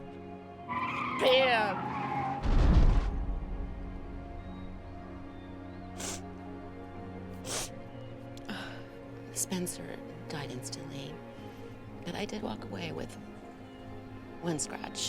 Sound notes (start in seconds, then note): 0.6 tires screeching; 1.8 cars crashing; 7.4 sniffling